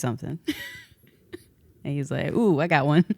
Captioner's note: laughs